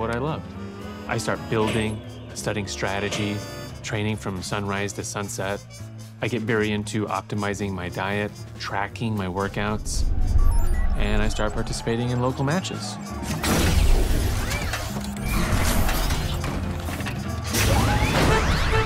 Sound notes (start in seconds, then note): 10.0 system beeping; 12.4 crowd cheering; 12.4 robots whir